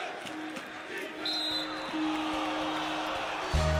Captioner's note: whistle blows